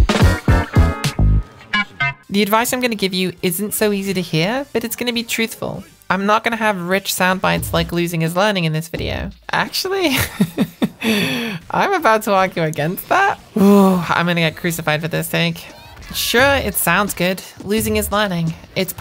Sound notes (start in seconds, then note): 10.1 laughs; 13.5 sighs